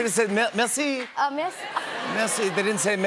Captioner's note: laughter